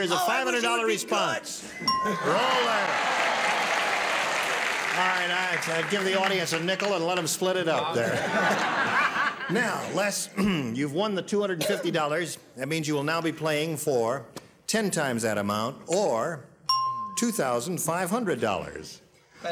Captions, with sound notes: Oh, I wish you'd be "good." -Here's the $500 response. Roller. [applause] All right, give the audience a nickel and let 'em split it up there. [laughter] Now, Les... [clears throat] You've won the $250. That means you will now be playing for ten times that amount or $2,500.